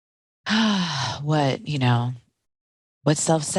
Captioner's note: sighing